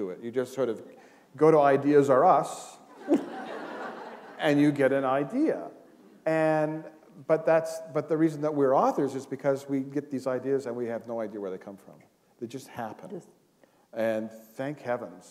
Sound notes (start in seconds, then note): 2.9 laughter